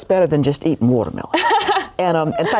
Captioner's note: laughs</i>